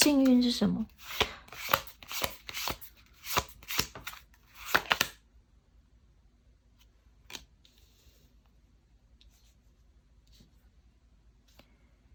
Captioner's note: drawing cards